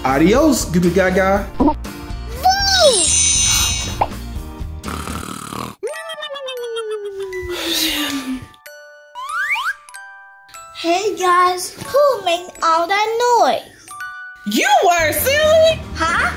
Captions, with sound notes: - Adios, Goo Goo Gaga! Boo! (magic sounds) (loud snoring) (Goo Goo Mom sighs) - Hey guys! Who was making all that noise? - You were, silly! - Huh? Oh well!